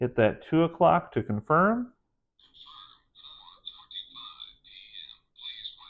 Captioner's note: watch announces time